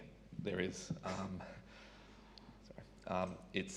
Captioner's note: microphone squeaks